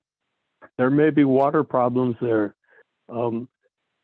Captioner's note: by phone